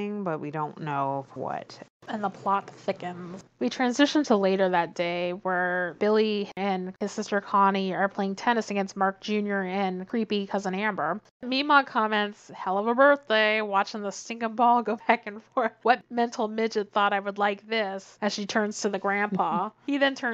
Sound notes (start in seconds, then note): none